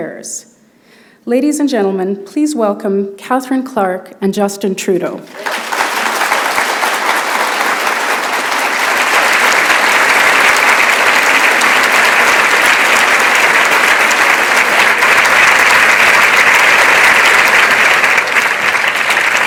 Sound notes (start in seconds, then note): 8.9 applause